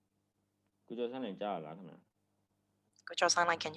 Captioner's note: speaking burmese